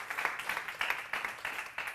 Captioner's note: applause